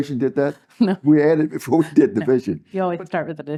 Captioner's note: laugh